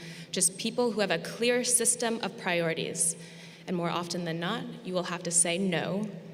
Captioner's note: none